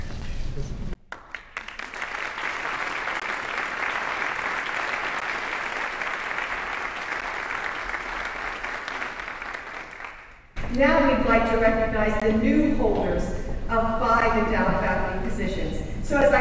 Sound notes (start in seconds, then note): 2.9 audience applauding